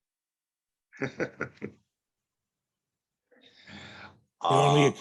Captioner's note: Barry laughs